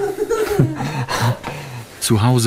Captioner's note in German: Kinderlachen